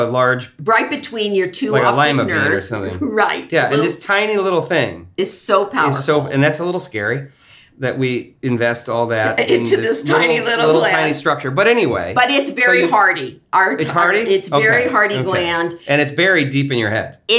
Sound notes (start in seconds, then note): 1.8 laughs